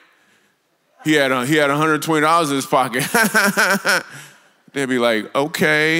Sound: laughs

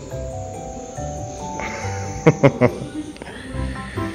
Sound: laughs

